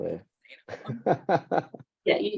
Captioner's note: laughing